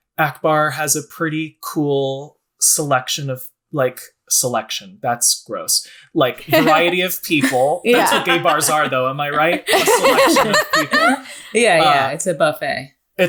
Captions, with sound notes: And Akbar has a pretty cool selection of like selection, that's gross. Like a variety of people, that's what gay bars are though, am I right? (laughing) A selection of people. - Yeah, it's a buffet.